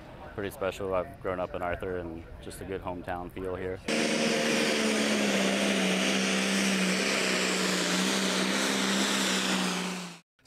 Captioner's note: tractor engine running